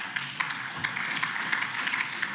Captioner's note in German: Beifall